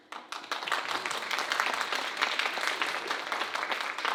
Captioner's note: audience applauding